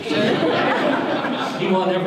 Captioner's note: audience laughter